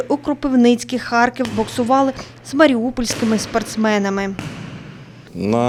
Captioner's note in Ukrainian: удари по боксерським лапам